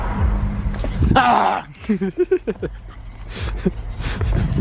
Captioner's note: chuckles